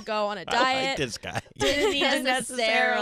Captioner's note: laughing